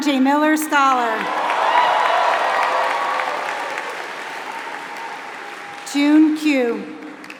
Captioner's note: applause